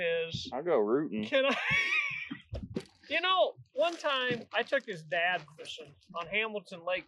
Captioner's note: laughs